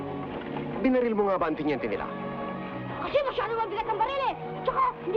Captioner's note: people speaking in Tagalog